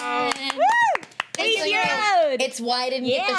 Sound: clapping and cheering

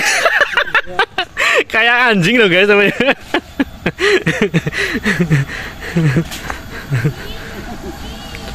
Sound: laughter

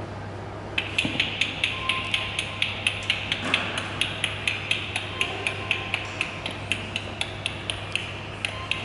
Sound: clicks

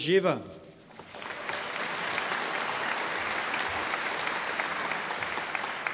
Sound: audience applauding

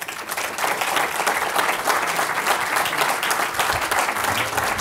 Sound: applause

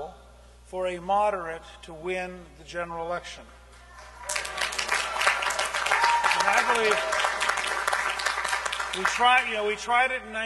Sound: cheering and applause

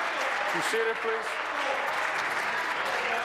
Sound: applause

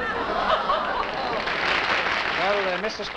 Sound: applause

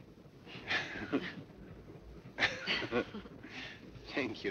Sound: both laughing

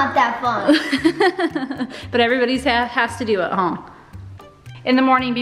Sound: laughs

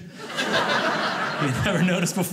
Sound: audience laughing

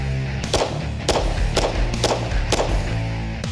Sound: gunshots

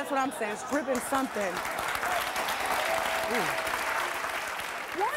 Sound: audience laughing and applause

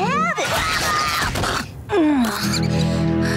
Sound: groaning

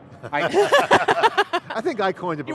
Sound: laughing

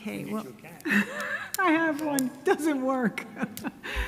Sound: laughing

